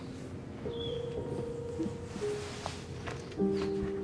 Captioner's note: soft piano music; birds chirping